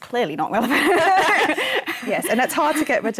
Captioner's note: laughter